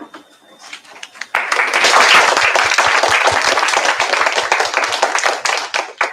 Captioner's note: applause